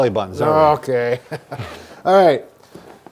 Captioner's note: laughter